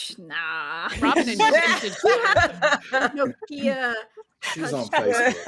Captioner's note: indistinct chatter and laughter